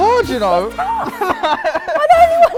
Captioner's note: laughing